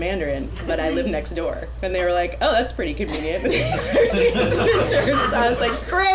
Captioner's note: laughter